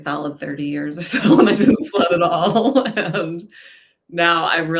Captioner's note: laughs loudly